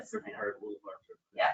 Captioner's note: speaking distantly